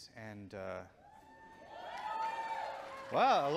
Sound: audience cheering

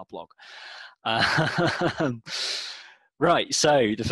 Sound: laughs

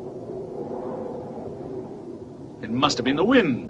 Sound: wind whistling

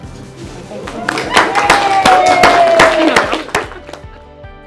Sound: clapping

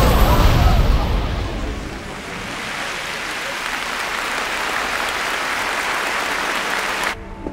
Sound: applause

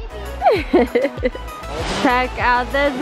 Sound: laughs

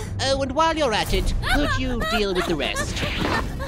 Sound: Young Namekian yells in fright

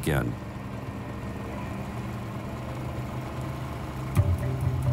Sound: boat engine whirring

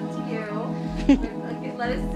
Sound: chuckles

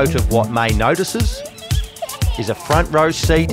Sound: excited squeal

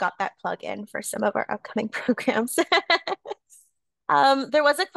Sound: laughs

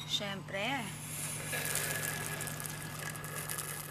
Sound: slurps

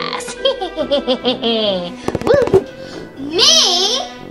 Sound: laughs maniacally

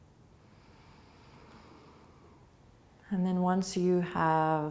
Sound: breathing

